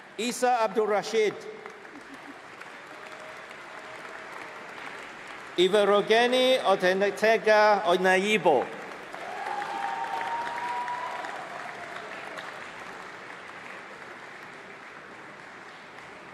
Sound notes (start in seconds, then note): 3.7 applause; 9.5 applause